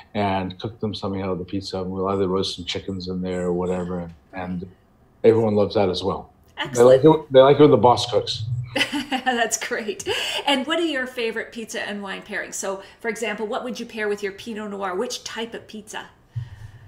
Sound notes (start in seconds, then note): 8.3 laughs